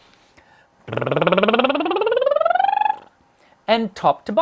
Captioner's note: lip bubbling